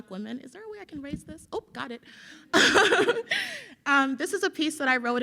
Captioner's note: laughs